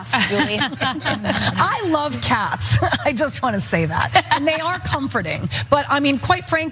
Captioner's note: laugh